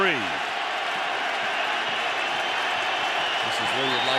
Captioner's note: cheering